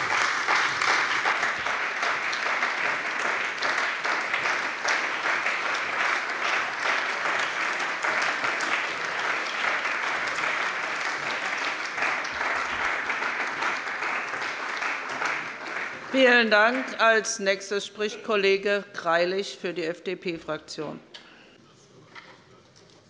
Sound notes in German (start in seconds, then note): 3.7 Beifall bei der CDU und dem BÜNDNIS 90/DIE GRÜNEN